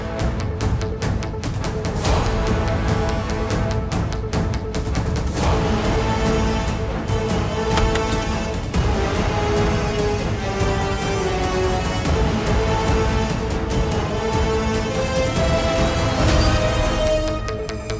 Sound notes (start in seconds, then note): 0.3 dramatic music playing; 7.6 door opening; 16.2 suspenseful music playing